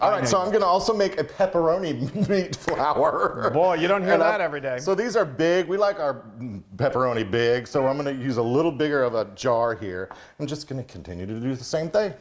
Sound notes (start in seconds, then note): 2.6 claps; 2.9 chuckles; 7.2 sniggers